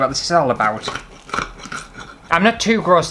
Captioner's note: cutlery Clattering